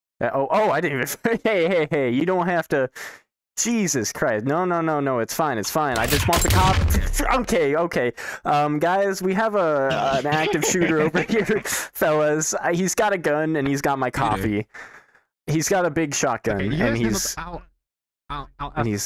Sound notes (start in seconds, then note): 1.2 laughs; 6.0 shotgun fire; 9.8 maniacle chuckling